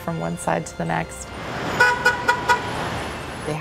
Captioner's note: horn honks